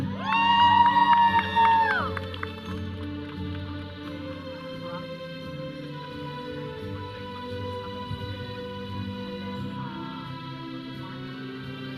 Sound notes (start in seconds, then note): 0.0 audience cheering; 2.6 processional music; 5.0 audience chattering; 5.0 processional music